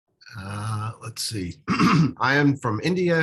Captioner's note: clears throat